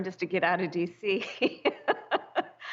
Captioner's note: laughter